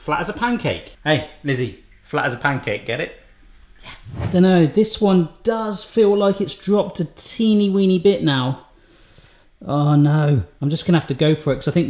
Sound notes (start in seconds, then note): 3.9 air whooshing